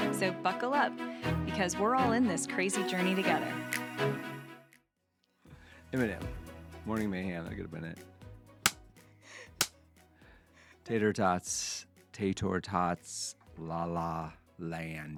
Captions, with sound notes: So buckle up because we're all in this crazy journey together. (upbeat music) Imma name it. Morning mayhem, I could have been it. (clapping) Tater tots, tater tots, la la land.